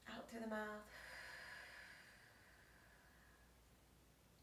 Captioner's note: exhales